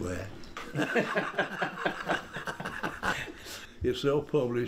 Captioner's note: laughter